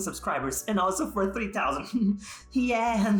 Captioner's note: laughing